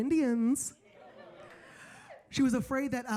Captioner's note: audience laughing